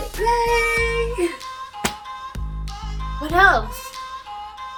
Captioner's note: giggles